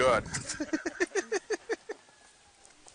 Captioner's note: laughs